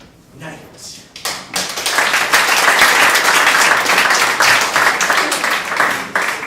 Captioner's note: audience applauding